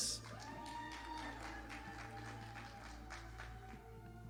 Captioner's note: audience applauding